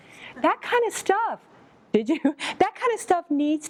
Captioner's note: laughs